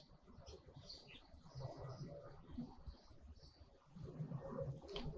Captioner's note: birds chirping